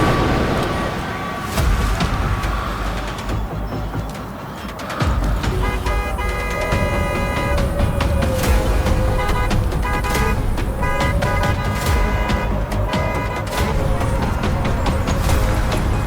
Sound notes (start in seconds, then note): 0.2 terrifying music; 4.7 EMP impact, car horns honking; 10.7 EMP impact, car horns honking; 15.8 terrifying music